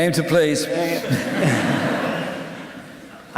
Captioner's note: laughter